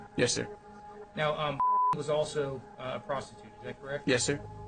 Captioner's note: beep